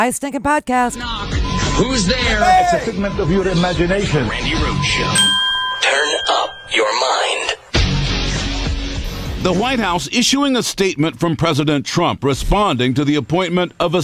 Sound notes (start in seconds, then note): 5.9 bell rings